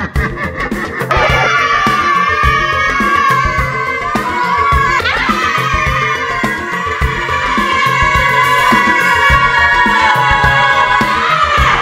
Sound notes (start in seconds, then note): 1.1 scream